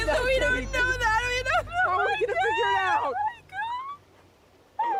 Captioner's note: crying